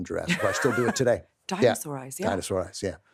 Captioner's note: laughs